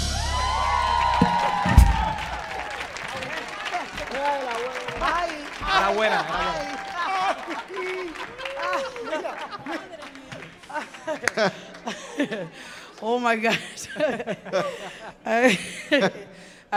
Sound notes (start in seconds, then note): 0.2 audience cheering; 2.9 audience applauding; 4.4 indistinct chattering; 13.7 chuckling